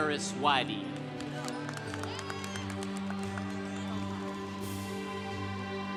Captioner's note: congregation applauding